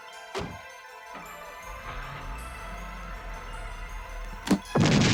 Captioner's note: car starting; booming explosion